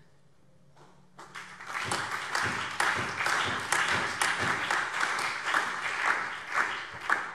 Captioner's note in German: Allgemeiner Beifall